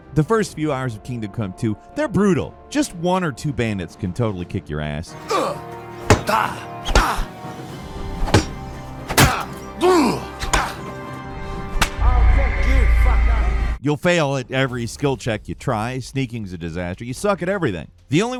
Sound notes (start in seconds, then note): 5.2 both grunting; 5.2 blows thudding